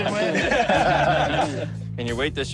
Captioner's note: laughter